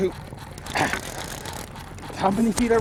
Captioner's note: laughing